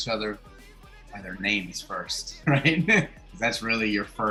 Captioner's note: laughs